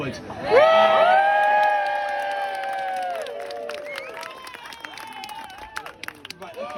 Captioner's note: crowd cheers